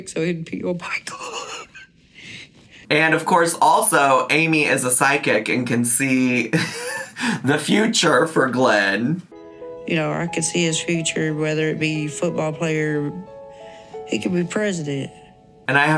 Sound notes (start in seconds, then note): 1.1 laughs; 6.5 laughs